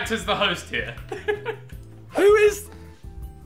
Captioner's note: laughing